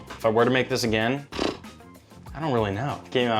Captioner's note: vocalizes